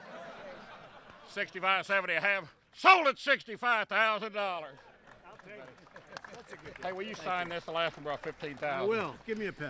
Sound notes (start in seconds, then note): 4.1 laughter; 4.6 applause